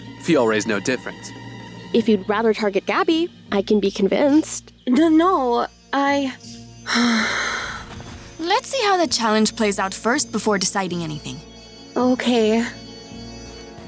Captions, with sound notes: Fiore's no different. If you'd rather target Gabby I can be convinced. N-no, I--! [deep breath] Let's see how the challenge plays out first before deciding anything. Okay.